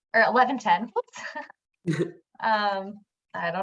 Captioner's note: giggles